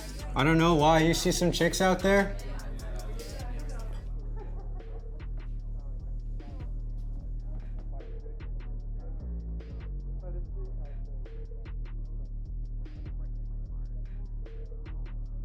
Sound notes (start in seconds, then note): 3.2 distant party music playing; 3.2 people chattering; 12.8 tense music